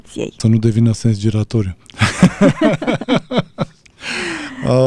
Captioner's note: laughter